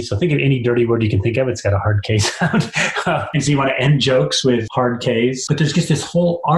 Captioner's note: laugh